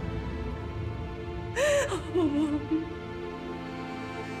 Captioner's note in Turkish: İlbilge ağlama sesi